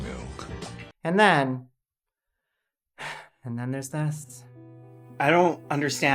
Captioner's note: sigh